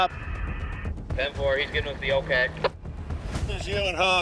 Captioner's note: radio transmission